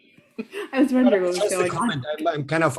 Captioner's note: laughs